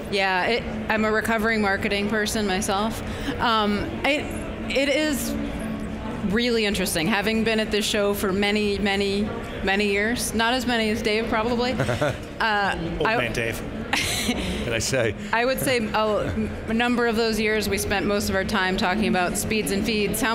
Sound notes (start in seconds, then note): 13.9 laughs